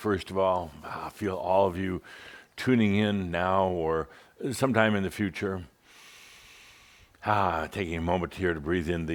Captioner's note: takes a deep breath